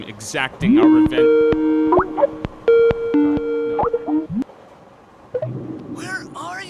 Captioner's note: computer sounds